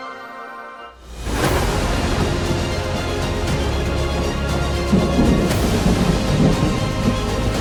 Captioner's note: dramatic music; thunder